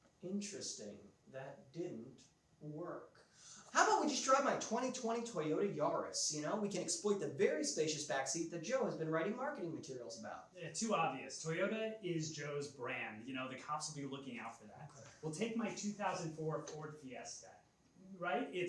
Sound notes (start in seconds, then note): none